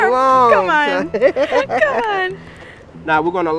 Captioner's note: laughing